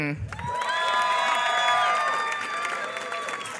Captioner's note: applause